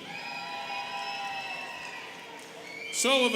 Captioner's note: students cheering